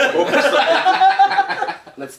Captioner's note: laughing